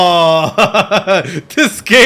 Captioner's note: laughing